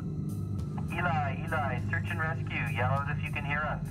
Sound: voiceover

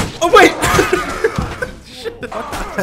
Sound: laughs

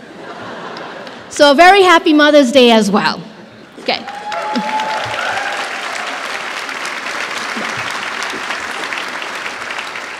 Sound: applause

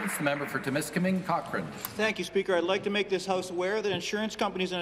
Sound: applause

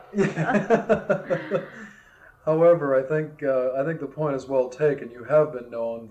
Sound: laughter

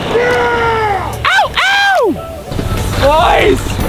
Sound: cheering

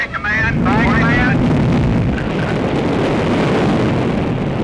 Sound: loud rumbling

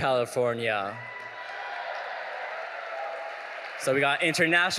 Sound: audience cheering

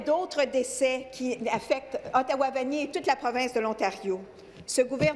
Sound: speaking french

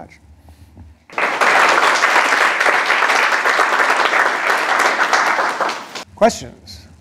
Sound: applause

